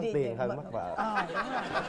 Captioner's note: laughing